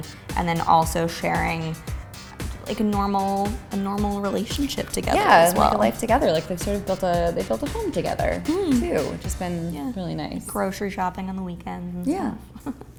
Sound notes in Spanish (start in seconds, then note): 8.5 gruñe de acuerdo